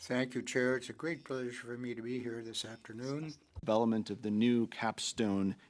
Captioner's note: speaking French